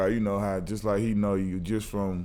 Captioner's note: none